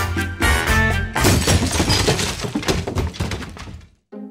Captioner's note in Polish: trzask